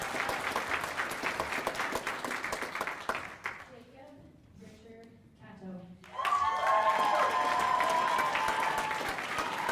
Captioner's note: applause